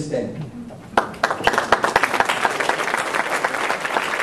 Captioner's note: applause